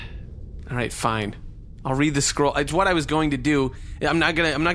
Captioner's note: sighs